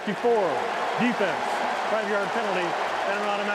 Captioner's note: cheering